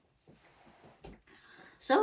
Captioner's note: bumping noises